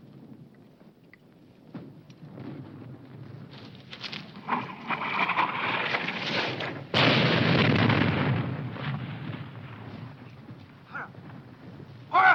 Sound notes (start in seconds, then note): 5.3 wind rustling; 6.8 bomb exploding